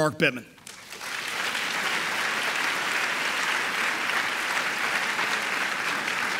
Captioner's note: audience applauding